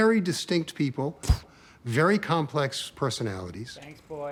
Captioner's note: camera shutter snaps